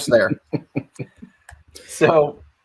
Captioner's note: laughing amusingly